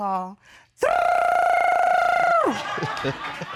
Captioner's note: rolls tongue; laughs